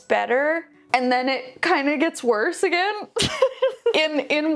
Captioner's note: laughs